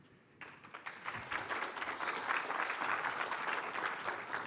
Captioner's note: applause